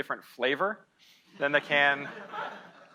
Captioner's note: audience laughing